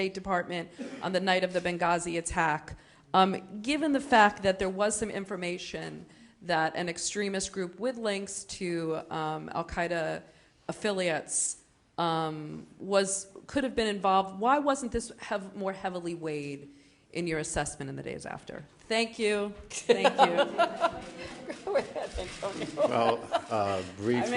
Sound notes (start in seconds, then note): 19.7 laughter